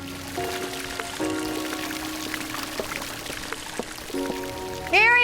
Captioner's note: water gurgling, splashing